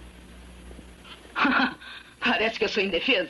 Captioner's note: laughs